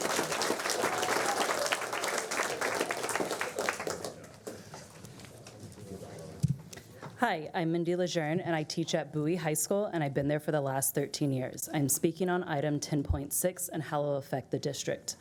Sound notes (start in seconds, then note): 4.8 applause